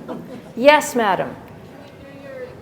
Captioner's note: laughter